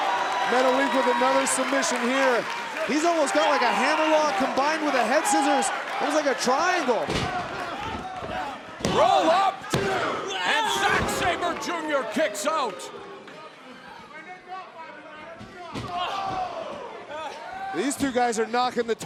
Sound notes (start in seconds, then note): 15.9 crowd exclaiming